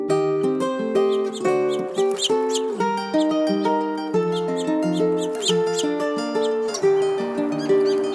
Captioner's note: birds chirping